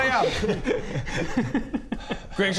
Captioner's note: evil giggle